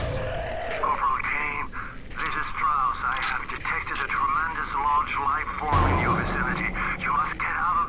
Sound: STRAUSS over the radio

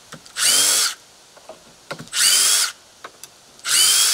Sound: drill whirling

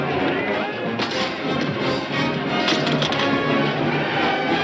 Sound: metal clattering

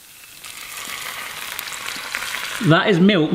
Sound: milk burbling into hot pan

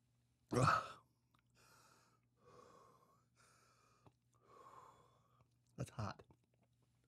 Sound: laughs

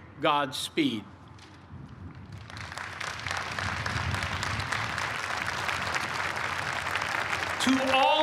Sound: cheers and applause

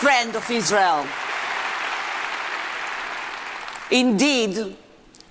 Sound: audience applauding

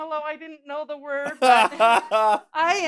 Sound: laughter

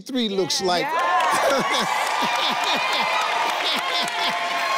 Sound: all cheering

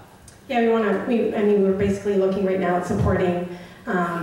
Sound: voiceover

